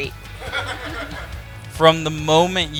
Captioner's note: laughing